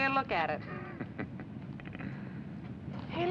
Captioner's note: chuckles